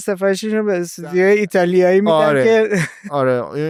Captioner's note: laughs